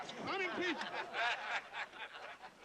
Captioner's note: laughter